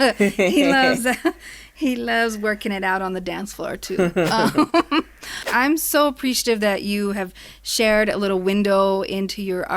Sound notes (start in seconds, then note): 0.0 laughs; 3.9 both laugh